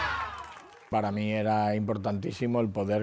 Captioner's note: Aplausos